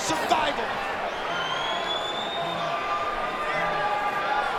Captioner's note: crowd cheering